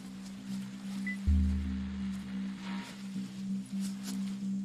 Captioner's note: equipment beeping